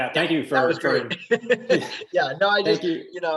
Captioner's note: laughing